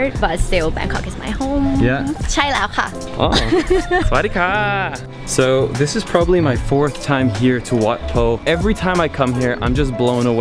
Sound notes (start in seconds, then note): 2.4 speaking Thai